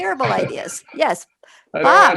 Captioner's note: chuckles